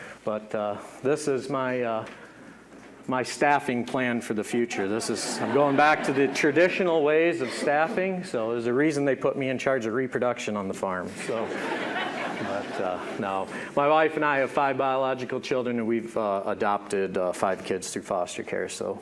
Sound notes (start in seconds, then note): 4.8 audience laughing; 11.2 audience laughing